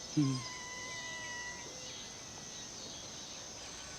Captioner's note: cats mewing